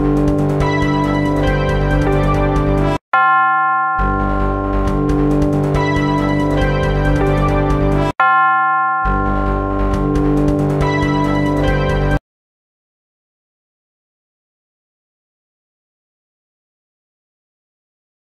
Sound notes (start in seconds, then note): 12.7 silence